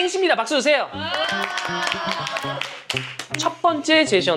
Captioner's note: clapping